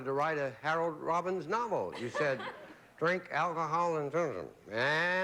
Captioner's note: mumbles